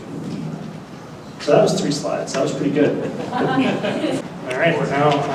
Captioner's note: laughter